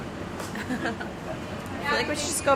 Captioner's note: chuckling